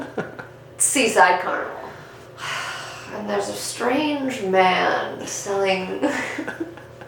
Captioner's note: chuckles off camera; sigh; both laugh